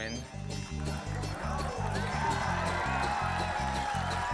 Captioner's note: audience cheering